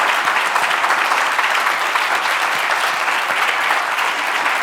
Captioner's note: cheers and applause continue